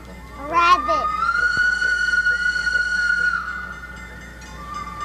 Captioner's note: train whistles; crossing bells dinging